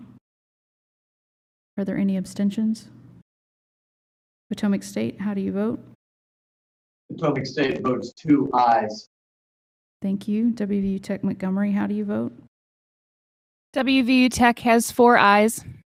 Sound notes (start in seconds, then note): 0.1 silence; 2.9 silence